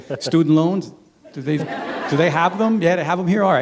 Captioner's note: laughter